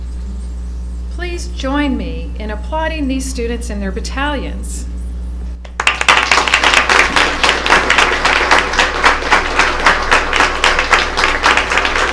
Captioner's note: applause